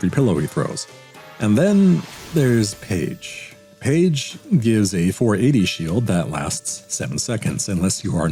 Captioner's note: audible disgust